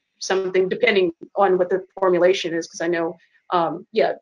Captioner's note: murmurs